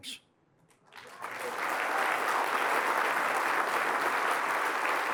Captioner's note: applause